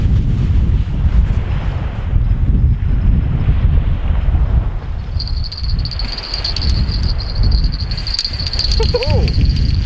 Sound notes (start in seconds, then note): 5.1 jingling; 9.2 ooh!